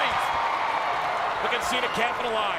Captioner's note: crowd cheers